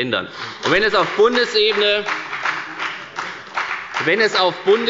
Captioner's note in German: Beifall bei der FDP